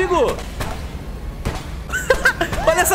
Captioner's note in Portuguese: risos